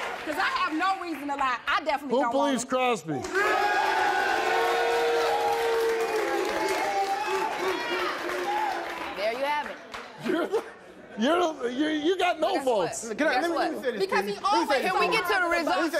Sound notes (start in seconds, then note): 3.2 audience cheers and claps; 10.2 laughs